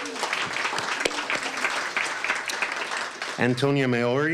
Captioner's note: applause